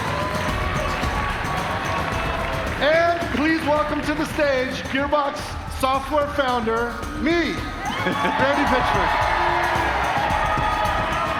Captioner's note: cheers and applause